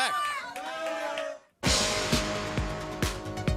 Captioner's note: crowd chatter